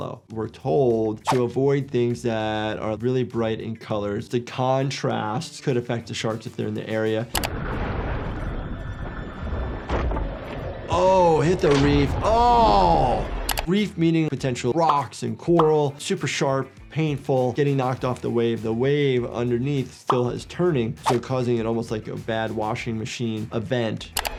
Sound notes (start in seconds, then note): 9.3 water splashing